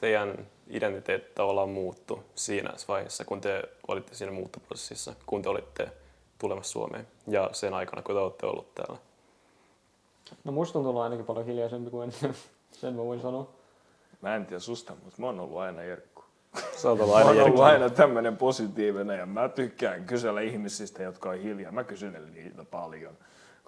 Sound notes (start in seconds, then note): 13.0 chuckles